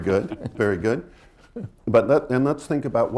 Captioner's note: laughter